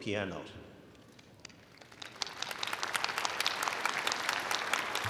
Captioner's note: audience applauding